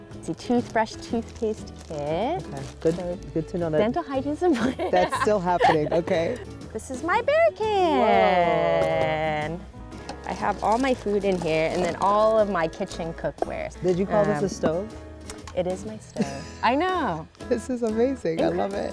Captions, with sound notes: A toothbrush, toothpaste kit. Good to know, good.... - Dental hygiene is important. (laughs) - That's still happening. Okay. - This is my bear can. - Whoa. - I have all my food in here and then all of my kitchen cookware. - Did you call this a stove? - It is my stove. - (laughs) - I know. - This is amazing. I love it.